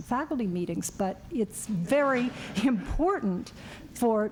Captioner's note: laughter